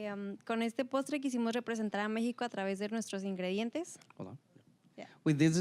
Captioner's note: speaking Spanish